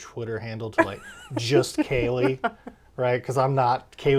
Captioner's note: laughs